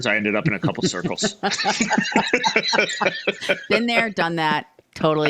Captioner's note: both laughing